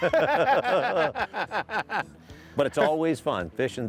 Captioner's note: laughing